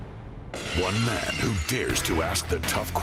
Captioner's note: glass breaking